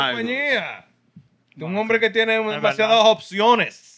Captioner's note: speaking Spanish